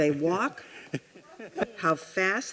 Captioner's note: man chuckling